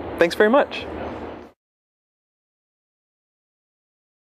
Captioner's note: pause